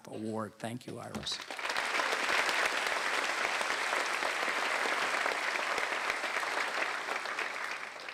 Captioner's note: applause